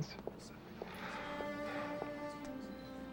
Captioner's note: sighs